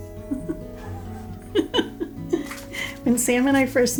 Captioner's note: laughs